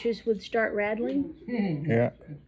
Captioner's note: laughs